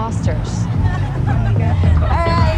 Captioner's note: teenagers laughing; car speeding; loud pop music